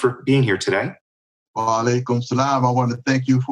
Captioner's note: non-english speech